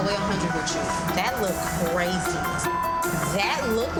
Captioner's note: beep